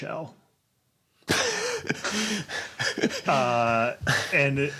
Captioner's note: laughs